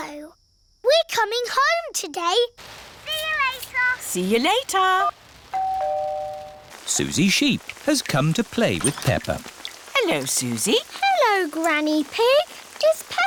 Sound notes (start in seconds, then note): 5.6 doorbell rings